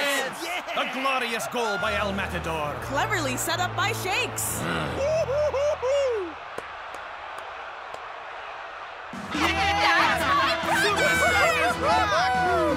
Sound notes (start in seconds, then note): 4.6 growls; 6.7 soft applause; 9.0 loud applause